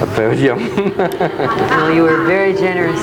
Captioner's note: laughs; audience laughing